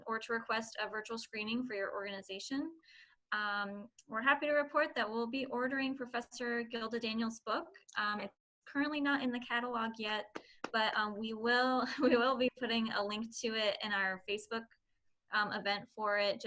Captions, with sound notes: or to request a virtual screening for your organization. We're happy to report that we'll be ordering Professor Gilda Daniel's book. Currently not in the catalog yet, (clapping) but we will (chuckles) be putting a link to it in our Facebook event for it